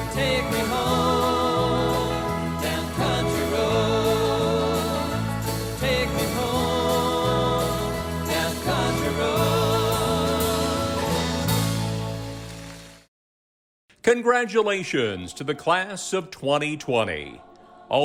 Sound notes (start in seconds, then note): 11.9 audience applauds